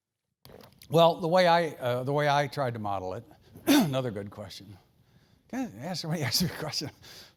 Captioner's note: cough